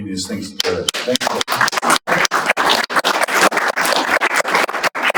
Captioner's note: audience applauding